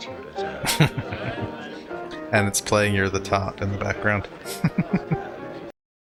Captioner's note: chuckling